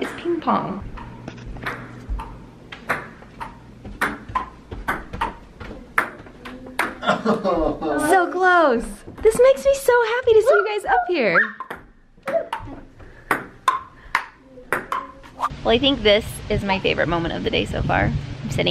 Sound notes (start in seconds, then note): 1.7 ping-pong ball bouncing; 7.0 laughs; 11.5 ping-pong ball bouncing